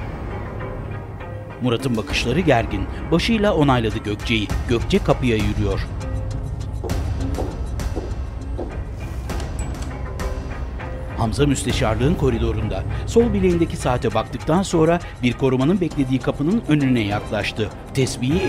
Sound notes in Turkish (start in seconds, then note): 0.1 Müzik - Gerilim; 6.8 Topuk sesi; 9.6 Müzik - Gerilim